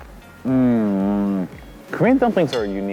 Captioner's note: moaning